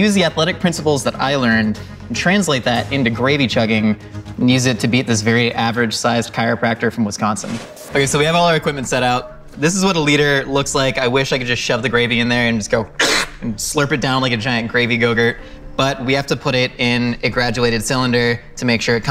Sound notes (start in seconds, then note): 13.0 slurp